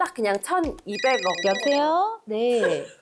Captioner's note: phone ringing sound effect